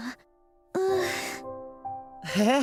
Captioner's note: tired sigh